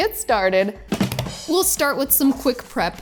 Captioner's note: hands drumming